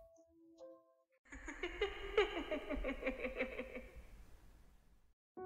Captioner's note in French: Rire